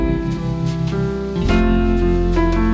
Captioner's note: none